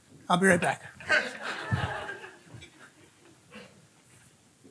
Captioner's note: audience laughing